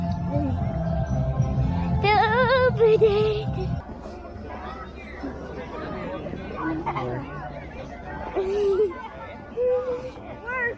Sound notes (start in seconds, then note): 4.9 people chattering; 8.8 laughs